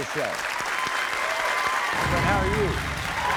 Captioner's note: crowd cheering